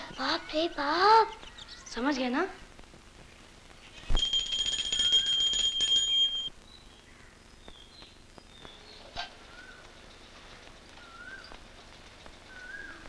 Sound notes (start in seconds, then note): 4.1 prayer bell rings